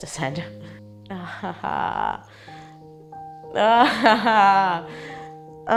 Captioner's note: laughing